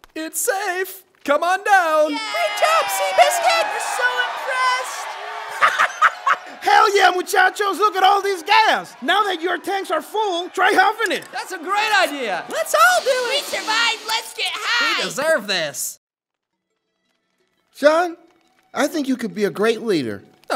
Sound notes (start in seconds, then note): 2.2 yaaay